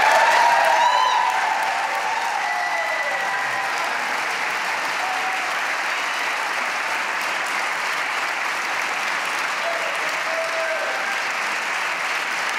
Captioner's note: applause